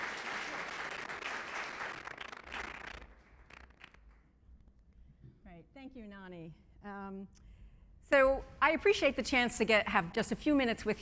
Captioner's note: applause